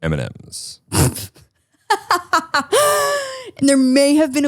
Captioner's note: laughs